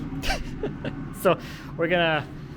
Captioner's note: laughing